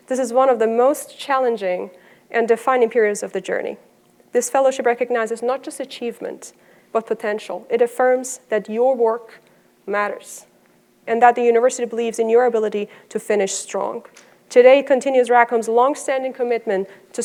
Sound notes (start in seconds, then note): none